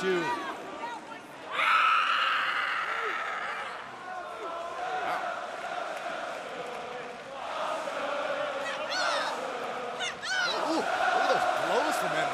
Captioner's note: crowd chatter